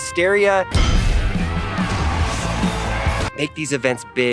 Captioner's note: fast-paced music; audience cheers